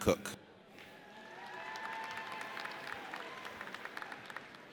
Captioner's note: audience cheers